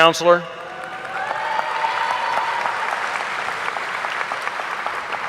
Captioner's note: audience applauding